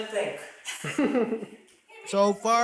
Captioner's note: chuckling